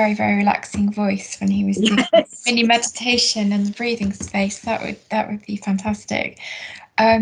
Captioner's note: laughs